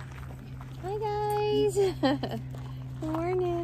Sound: laughs

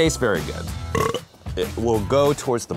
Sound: burp

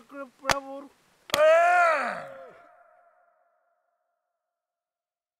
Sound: person grunting

